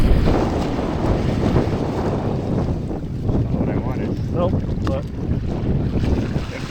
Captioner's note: wind blowing